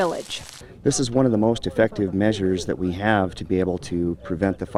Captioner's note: crackling